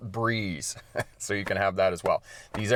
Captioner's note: chuckling